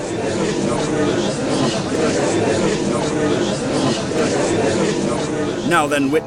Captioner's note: gallery chattering